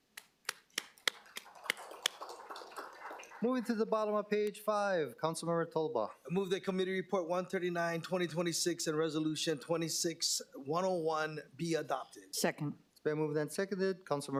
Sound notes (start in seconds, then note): 3.8 applause